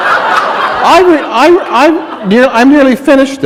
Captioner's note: laughter